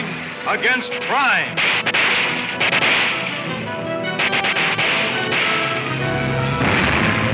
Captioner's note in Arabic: موسيقى تشويقية; إطلاق نار